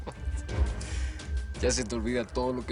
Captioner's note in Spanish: Ríe